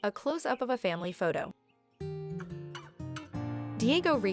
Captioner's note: birds chirping, gentle music